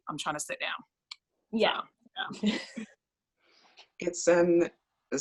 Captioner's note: laughs